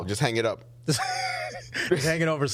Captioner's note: laughing